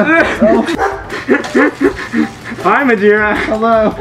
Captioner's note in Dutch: Gelach